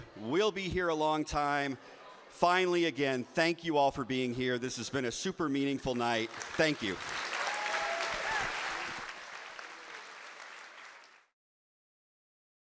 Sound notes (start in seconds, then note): 7.5 audience applauding